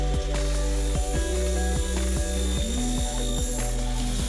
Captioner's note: saw buzzing